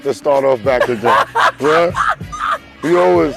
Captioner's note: laughing